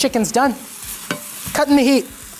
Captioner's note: pan sizzling